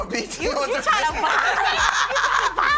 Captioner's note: laughter